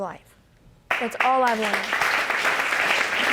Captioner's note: audience applauding